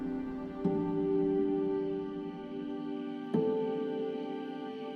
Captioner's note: insects buzz